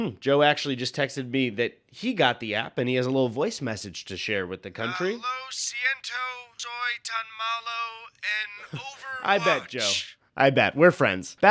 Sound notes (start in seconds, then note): 6.4 speaking Spanish